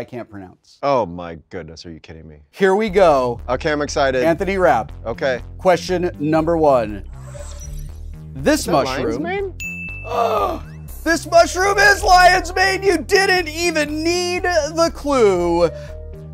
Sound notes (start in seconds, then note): 9.8 Wil gasping